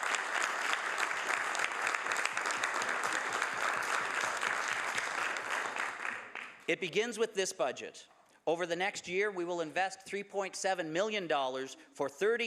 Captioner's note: some Applause